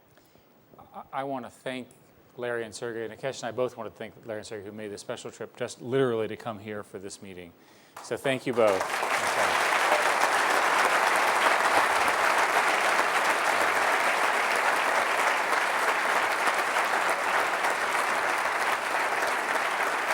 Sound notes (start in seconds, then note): 8.0 applause